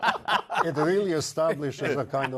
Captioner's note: laughter